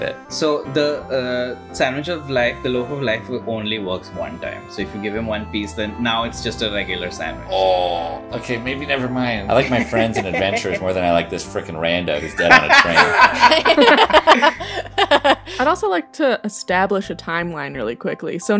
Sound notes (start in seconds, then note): 12.1 laughter